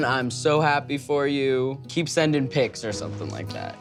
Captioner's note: none